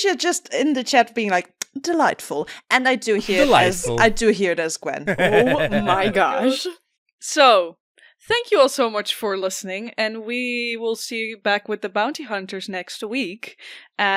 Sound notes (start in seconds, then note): 5.0 laughs; 5.0 laughing